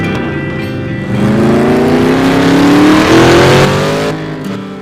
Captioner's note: vrrrhhheemmmm!!!; vrrhhhhhhhhhhhhhhhmmmmmmmmmmmmm!!!!